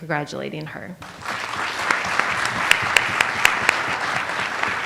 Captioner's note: audience applauds